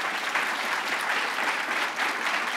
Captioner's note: applause